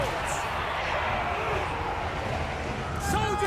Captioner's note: army shouts